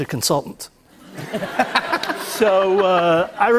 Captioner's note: laughter